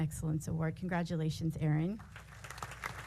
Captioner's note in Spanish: aplausos